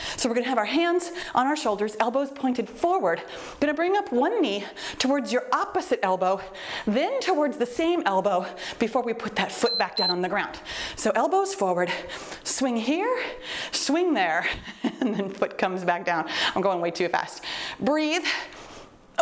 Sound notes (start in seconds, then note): 9.6 timer beeps